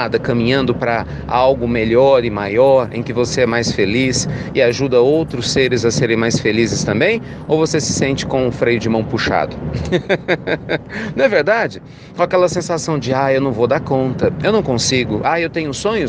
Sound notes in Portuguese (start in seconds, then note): 9.7 risos